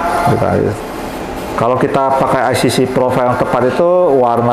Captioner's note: printer machine sound